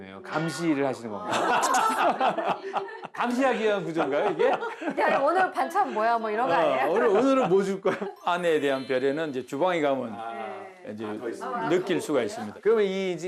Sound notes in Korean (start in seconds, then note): 1.2 하하하하하하하하